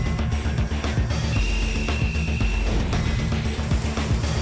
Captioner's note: whistle blowing